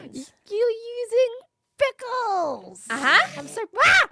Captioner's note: gasps